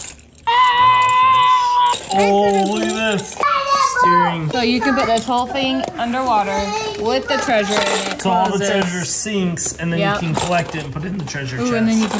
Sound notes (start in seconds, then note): 0.8 shouts